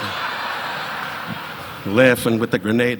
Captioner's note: audience laughing